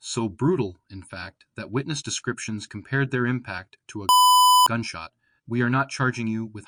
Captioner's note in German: Piep